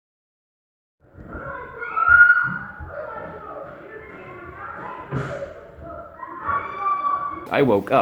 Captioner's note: screaming and thumping noises